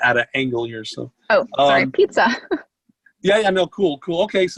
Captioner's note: giggles